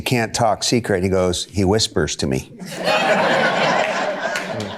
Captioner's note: audience laughter